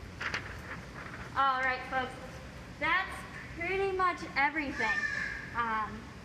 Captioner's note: bird squawk